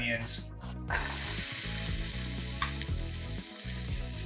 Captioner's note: pan sizzling